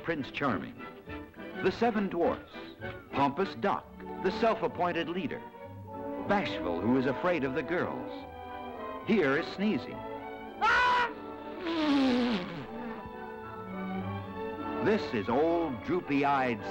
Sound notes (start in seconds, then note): 9.2 sneezing